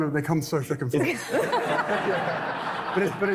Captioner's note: laughing